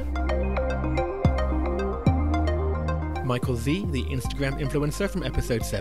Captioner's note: voiceover